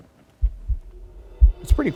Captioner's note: heartbeat pulsating